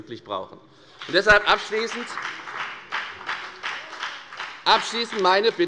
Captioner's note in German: Beifall bei der FDP